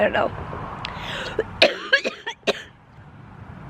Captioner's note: coughing